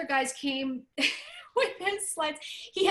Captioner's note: laughter